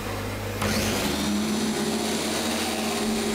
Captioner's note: loud humming